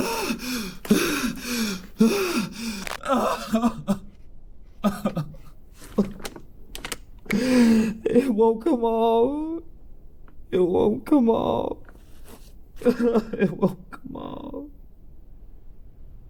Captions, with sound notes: Ah! (panting) (Pete sobs) It won't come off. It won't come off. (sobs) It won't come off.